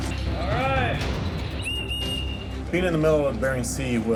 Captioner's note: blowing whistle